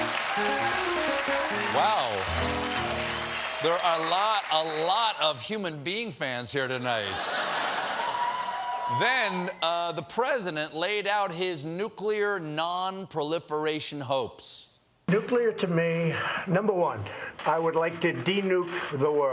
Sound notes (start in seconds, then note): 0.0 cheers and applause; 0.0 piano riff; 7.1 laughter; 7.1 cheering